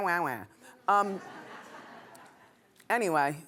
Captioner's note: laughing